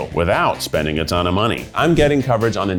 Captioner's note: graphics whooshing